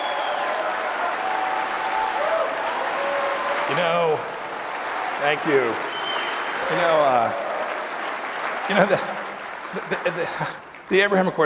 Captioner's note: applause